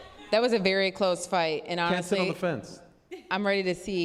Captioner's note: laughs